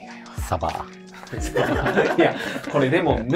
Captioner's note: laughing